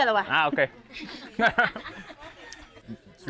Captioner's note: laughs